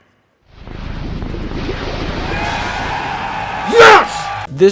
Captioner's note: cheers and applause